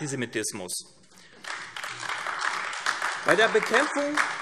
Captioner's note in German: Beifall AfD